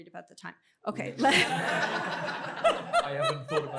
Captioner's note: laughter